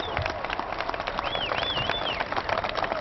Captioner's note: applause